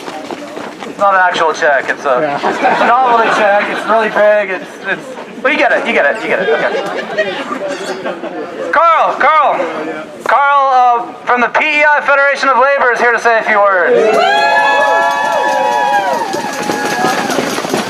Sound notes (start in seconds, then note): 14.5 applause